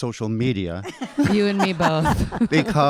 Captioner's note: audience laughing